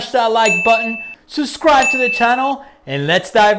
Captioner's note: bell dings